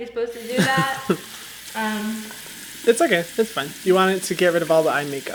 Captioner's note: laughs